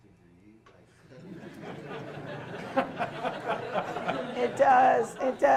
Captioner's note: loud laughter